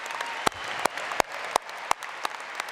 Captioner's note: applause